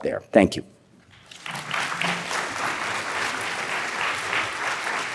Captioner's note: applause